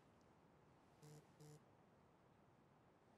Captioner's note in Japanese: バイブ音